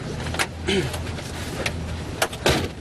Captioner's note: clears throat; car door closes